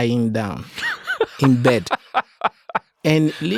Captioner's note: laughs